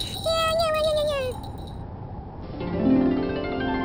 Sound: bells jingle and Smelf giggle; wind howl; magical harp scales

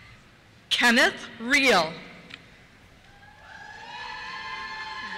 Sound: cheers

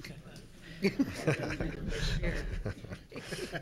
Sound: laughing

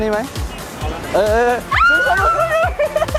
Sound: screaming

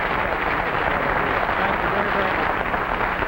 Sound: audience clapping

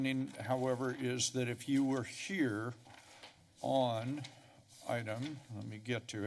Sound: paper shuffling

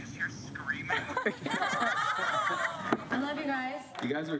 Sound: all laugh

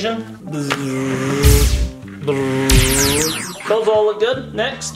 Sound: machine buzzing; machine zapping

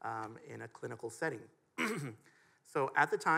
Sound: clears throat

